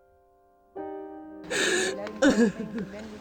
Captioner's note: crying